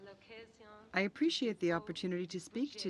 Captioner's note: speaking French